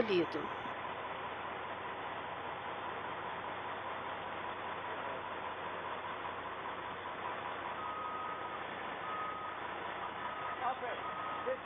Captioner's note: ambulance siren